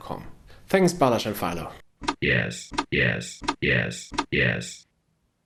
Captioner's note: robotic voice